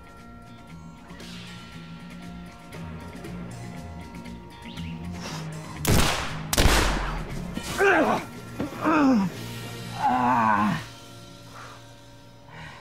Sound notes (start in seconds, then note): 0.1 suspenseful Western music continues; 5.8 gunshots blasting; 7.8 Dalton groans